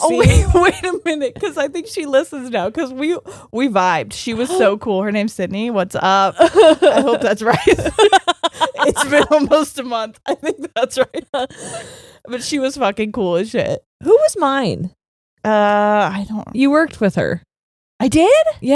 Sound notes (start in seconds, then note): 3.3 gasping; 8.2 laughing